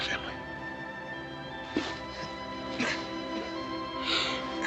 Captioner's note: coughing